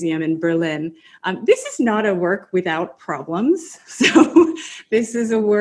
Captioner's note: laughs